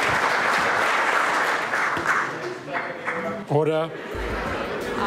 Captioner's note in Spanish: aplausos